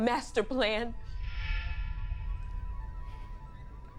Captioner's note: eerie sounds